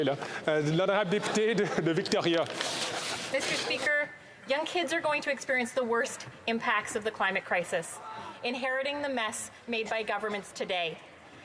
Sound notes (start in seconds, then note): 3.4 speaking French